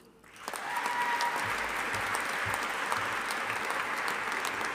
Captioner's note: audience applauding